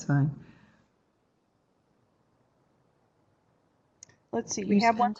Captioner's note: no sound - waiting for questions